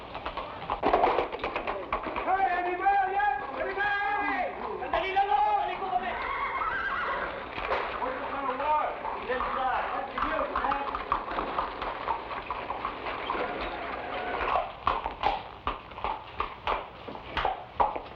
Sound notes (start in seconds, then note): 2.5 men shout in Tagalog; 6.3 horses neigh; 7.0 men chatter; 11.6 horse hooves patter